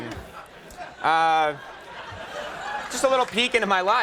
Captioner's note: audience laughing